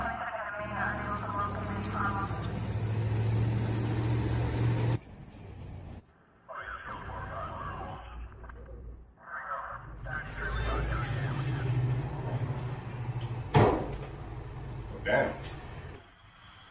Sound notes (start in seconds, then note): 0.0 police radio noise; 2.7 engine noise in background; 6.4 police radio noise; 12.3 car noise in background; 13.5 loud slam; 16.5 car noise in background